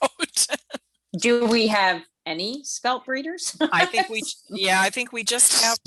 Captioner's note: laughs; laughs